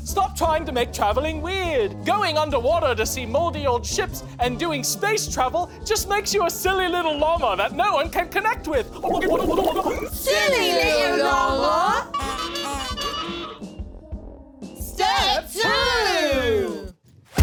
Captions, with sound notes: - Stop trying to make traveling weird. Going underwater to see moldy old ships and doing space travel just makes you a silly little llama that no one can connect with. (water burbles) - [The Giggles] Silly little llama! (horn honks) Step two!